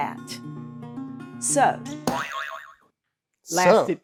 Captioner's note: buzzer boing